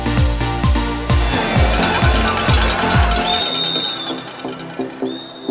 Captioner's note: cow bell ringing, crowd cheering